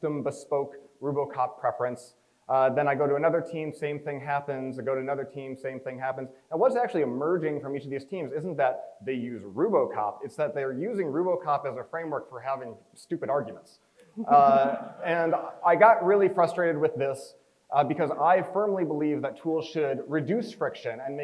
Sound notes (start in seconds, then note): 14.2 crowd chuckles